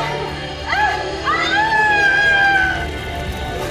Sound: witch screams

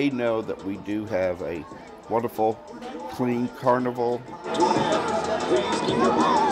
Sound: festival sounds

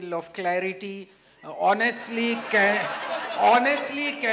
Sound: laughter

